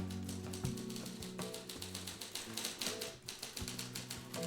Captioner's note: typing